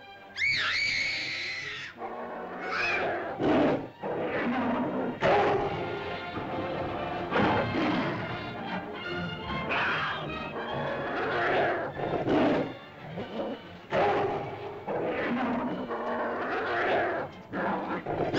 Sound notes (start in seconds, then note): 0.1 dinosaur growls; 0.3 girl screams; 3.3 dinosaur growls & snarls; 3.3 suspenseful music